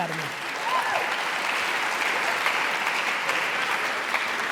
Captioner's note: applauding